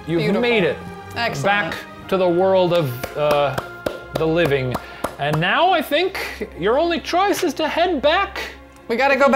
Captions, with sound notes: You've made it back to the world of the living. (clapping) And now, I think, your only choice is to head back